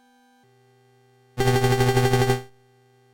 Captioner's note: 8-bit sound effect, less like a mandolin